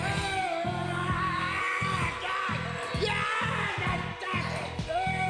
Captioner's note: man screaming in pain